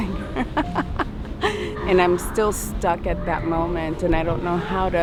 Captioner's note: laughing